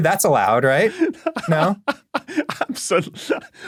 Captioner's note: laughs bewildered